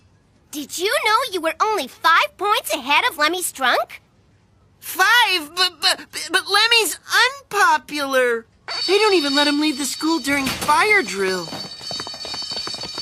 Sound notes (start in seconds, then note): 10.4 ringing